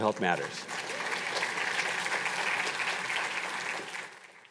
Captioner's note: audience applauding